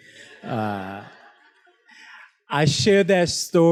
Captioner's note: students laughs